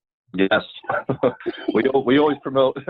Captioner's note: laughing